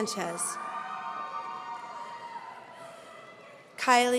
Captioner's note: audience cheering